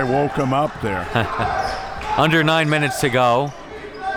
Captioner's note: laughs